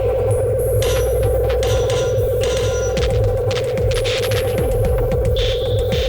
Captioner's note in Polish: Silne dudnienie powoli cichnie